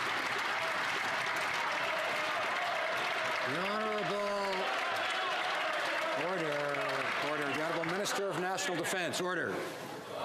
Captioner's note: some Applause